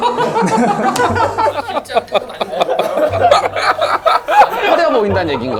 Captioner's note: can't help but laugh